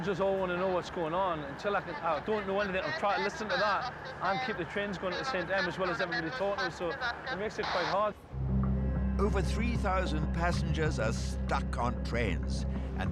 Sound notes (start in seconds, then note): 2.8 radio chatter crackles